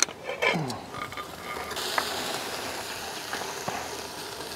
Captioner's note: steak sizzling